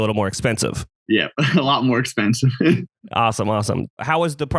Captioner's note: laughs